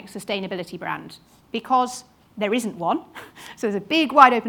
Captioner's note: chuckles